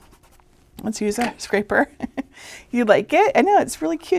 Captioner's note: chuckling